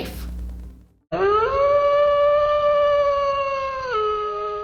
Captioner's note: wolf howling